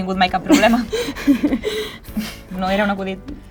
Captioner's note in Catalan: Lisa riu